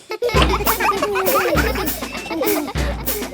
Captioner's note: children laughing